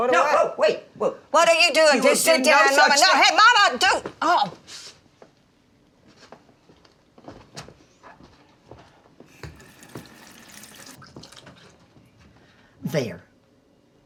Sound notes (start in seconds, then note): 9.3 faucet running